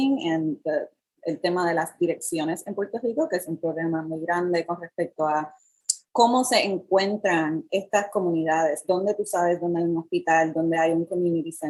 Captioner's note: speaking in Foreign Language